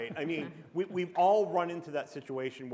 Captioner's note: chuckle